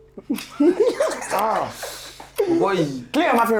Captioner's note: laughs